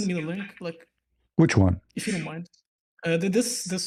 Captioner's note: clears throat